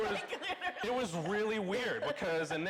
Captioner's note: laughing